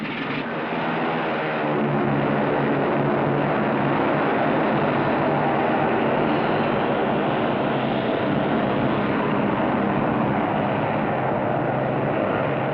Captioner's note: plane takes off